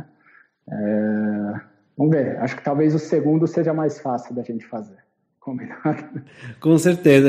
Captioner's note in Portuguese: risos